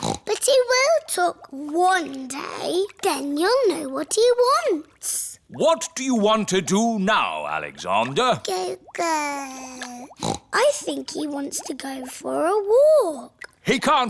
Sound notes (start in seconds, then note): 0.0 snorts; 9.0 babbles; 10.0 snorts